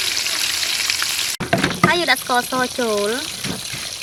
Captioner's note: pounding